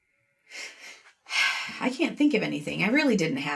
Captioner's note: sighs